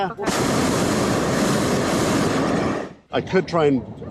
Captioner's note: burner roars